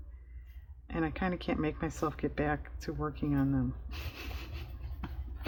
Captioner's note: laughs